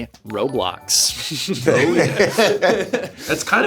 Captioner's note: streamers chuckling